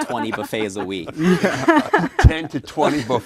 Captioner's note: laughing